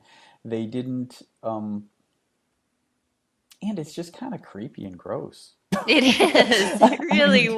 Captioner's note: both laughing